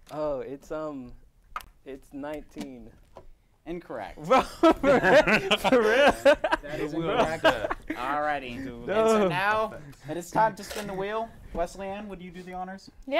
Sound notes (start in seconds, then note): 4.2 laughs